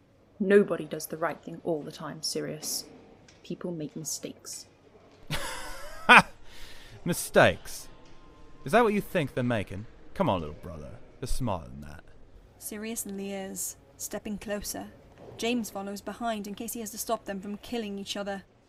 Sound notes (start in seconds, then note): 5.2 Sirius laughs coldly